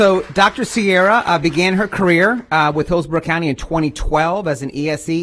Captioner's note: applause